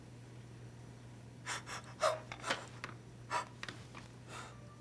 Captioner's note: gasping